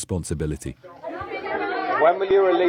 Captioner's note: crowd chanting